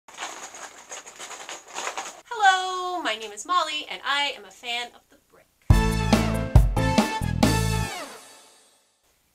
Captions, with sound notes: *LEGO rattling* Hello! My name is Molly, and I am a fan of the brick. *theme music*